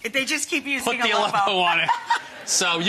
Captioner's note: laughs